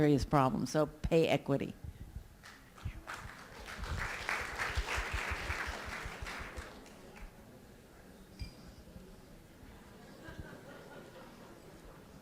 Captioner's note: applause